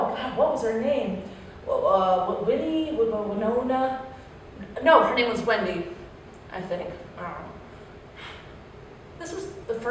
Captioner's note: sigh